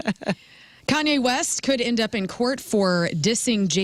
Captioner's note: laughing